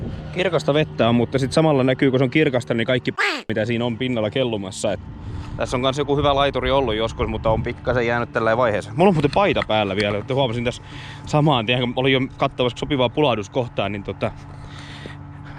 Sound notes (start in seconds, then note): 3.2 quack